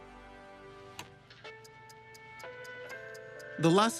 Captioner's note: soft music playing; ticking